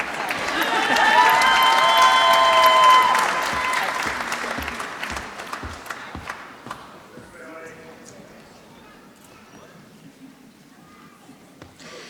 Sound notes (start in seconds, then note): 0.0 applause